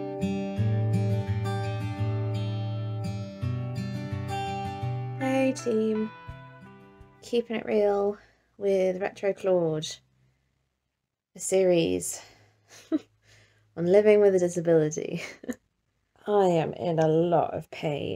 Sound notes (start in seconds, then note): 5.1 gentle guitar music; 11.5 chuckles